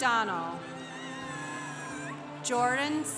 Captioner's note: congregation applauding